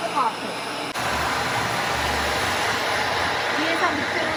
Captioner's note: blow drying